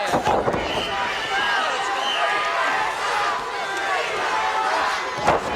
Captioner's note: audience chanting